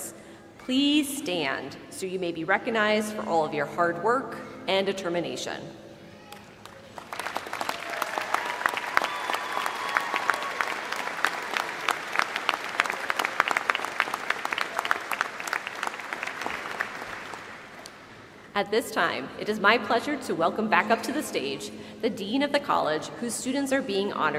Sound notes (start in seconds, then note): 6.6 applause